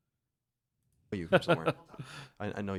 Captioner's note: laughter